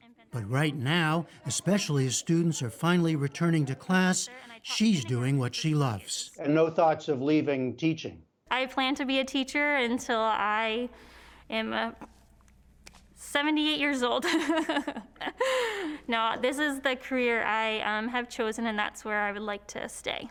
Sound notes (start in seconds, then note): 14.2 laughter